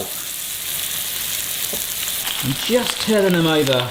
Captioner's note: oil sizzling